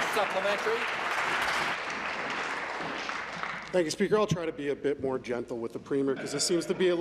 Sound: applause

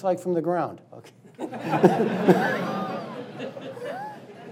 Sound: laughing

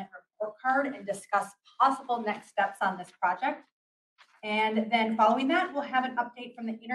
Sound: papers rustle

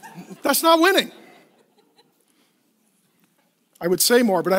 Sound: laughing

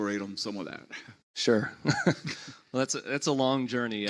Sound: laughs

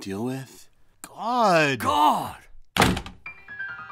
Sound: sulkily; door slams; woeful music

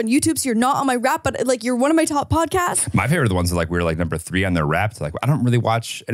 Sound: laughs

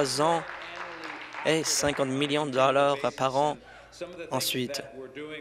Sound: applause

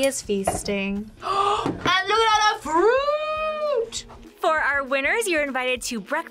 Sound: gasps

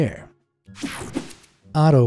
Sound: image whooshing

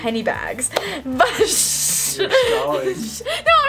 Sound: shushes and giggles

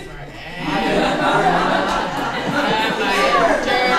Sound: laughter

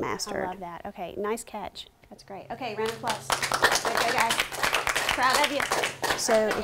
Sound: applause

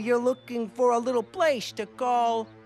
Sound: none

